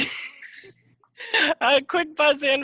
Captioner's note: laughing